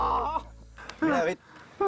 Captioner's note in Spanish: Quejidos